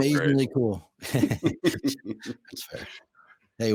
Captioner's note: podcasters chuckling